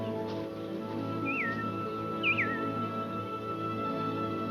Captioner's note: whistling